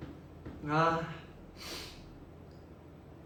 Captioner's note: sniffles